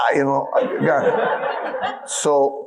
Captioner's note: audience laughing